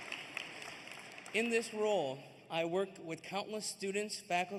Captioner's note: applause